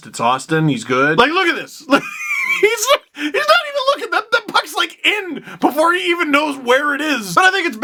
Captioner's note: laugh